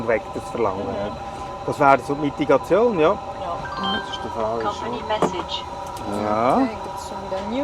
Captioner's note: beeping